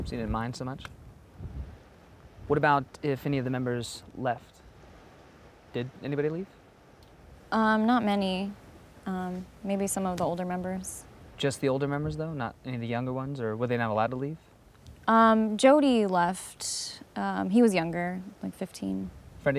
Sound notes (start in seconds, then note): none